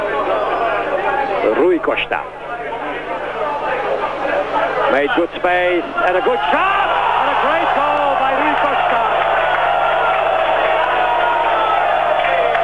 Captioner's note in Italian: Applauso